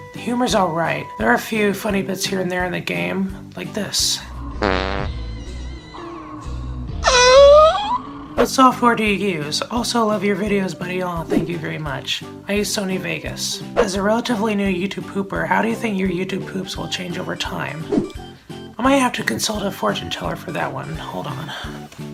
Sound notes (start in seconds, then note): 4.5 farts; 6.9 Cortex's high-pitched whine